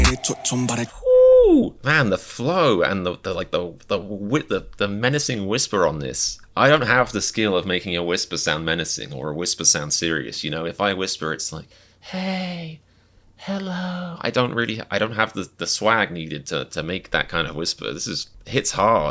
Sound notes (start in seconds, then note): 3.2 stuttering